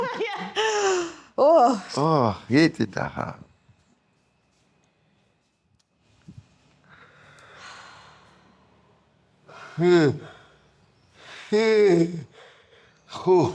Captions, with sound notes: (laughing) Oh, get it, ah ha. (exhaling) (exhaling)